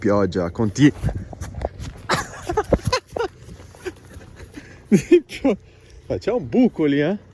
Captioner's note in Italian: risate